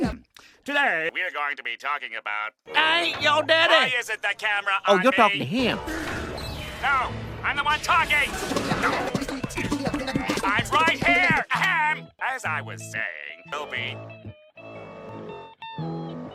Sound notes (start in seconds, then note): 5.7 Incineroar Groans; 8.4 Squidward Growls